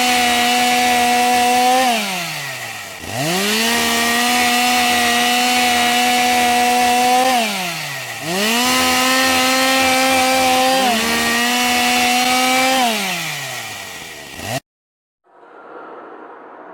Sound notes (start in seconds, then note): 5.6 chainsaw sound; 15.2 humming sound